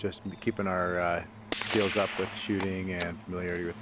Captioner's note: gunfire